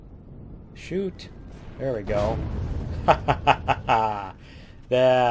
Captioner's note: laughs